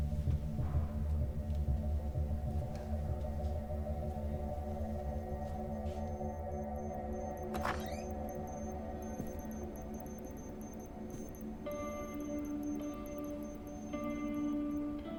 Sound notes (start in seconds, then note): 3.8 suspenseful music; 7.4 door squeaks; 11.7 light dramatic music